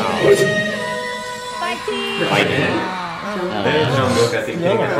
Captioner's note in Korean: 환호